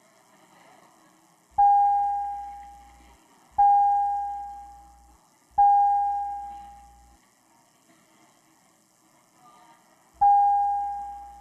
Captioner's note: sound of bell